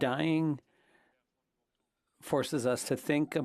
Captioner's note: speaking French